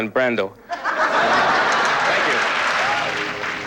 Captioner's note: laughter